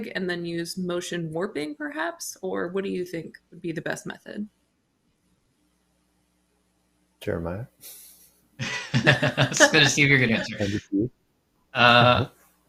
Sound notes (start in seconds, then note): 8.6 laughter; 8.6 chuckles